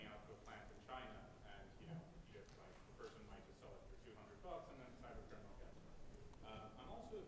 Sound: speaking faintly

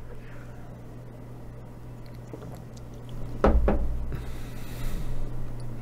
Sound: knocking

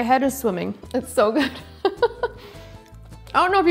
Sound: chuckles

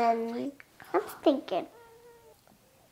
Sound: faintly whispering

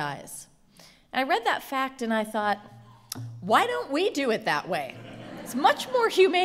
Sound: laughter

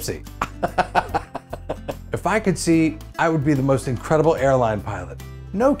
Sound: laughs

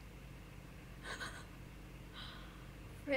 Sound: laugh of shock

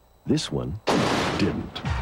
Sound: clank

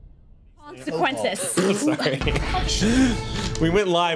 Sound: overlapping chatter; dramatic music

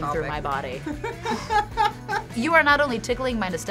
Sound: both laugh

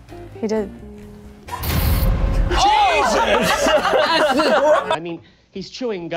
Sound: laughter in the background

